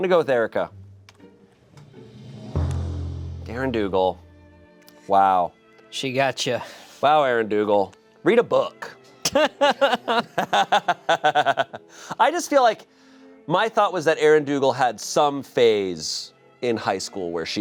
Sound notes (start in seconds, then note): 4.2 sad violin music; 9.2 laughing; 9.2 laughs